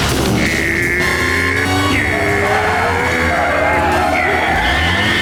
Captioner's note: growling